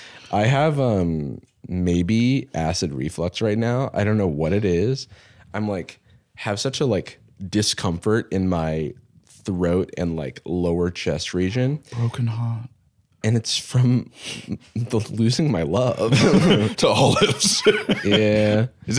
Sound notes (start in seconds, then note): 11.4 gasps; 16.0 both laugh; 16.0 laughs